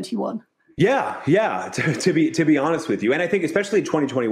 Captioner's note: chuckles